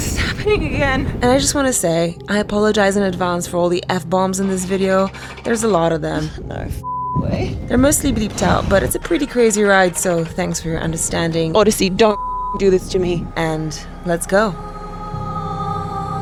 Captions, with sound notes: I can't believe this is happening again. And I just wanna say I apologize in advance for all the F-bombs in this video. There's a lot of them, no (beep) way. They're mostly bleeped out, but it's a pretty crazy ride. So thanks for your understanding. Odyssey, don't (beep) do this to me, and let's go.